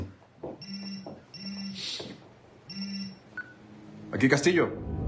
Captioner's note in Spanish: Timbra un teléfono